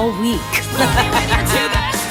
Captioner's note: laughter